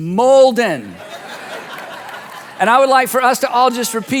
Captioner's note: audience laughing